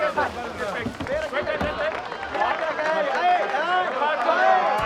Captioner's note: applause